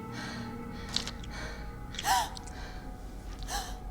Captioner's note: Charlie heavy breathing; apple squishing; Charlie gasping